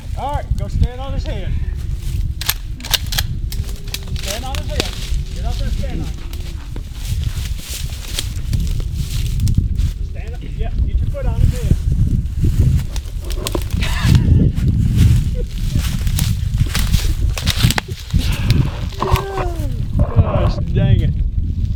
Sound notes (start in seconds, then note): 2.4 gun cocks